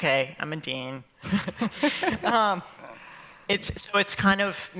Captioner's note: laughter